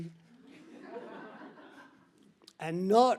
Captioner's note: audience laughs